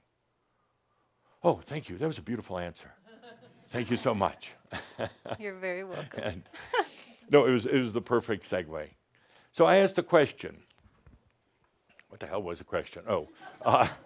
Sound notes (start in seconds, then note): 5.8 chuckles